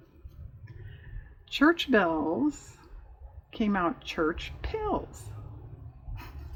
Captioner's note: laughs